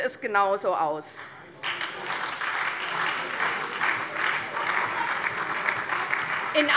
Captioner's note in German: Beifall SPD und DIE LINKE